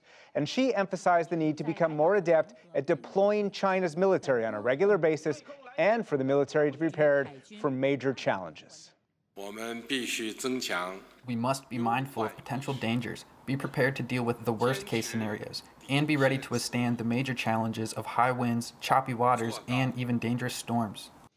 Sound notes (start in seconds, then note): 10.4 through translator